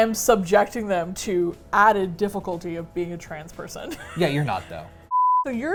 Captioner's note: laughs